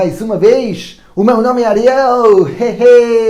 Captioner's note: speaking portuguese